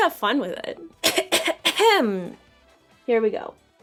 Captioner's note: cough